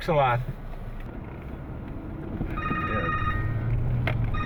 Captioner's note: phone rings